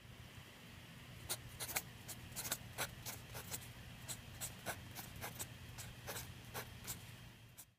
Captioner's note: pencil scratches sound like the song